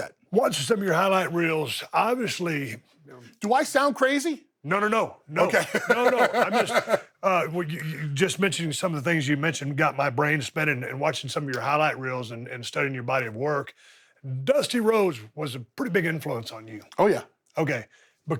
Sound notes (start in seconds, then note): 5.4 laughs